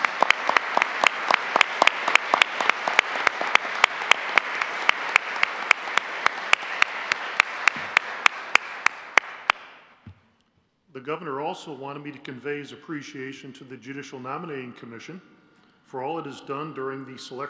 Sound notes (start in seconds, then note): 1.7 applause